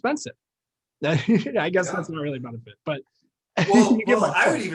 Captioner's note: laughing; laughing